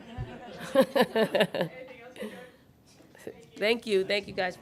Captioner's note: laughing